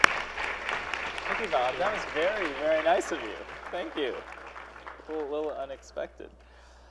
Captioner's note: applause